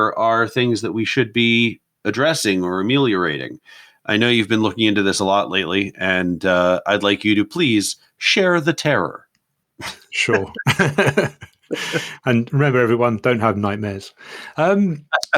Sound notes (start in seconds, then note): 9.8 chuckles; 10.3 laughs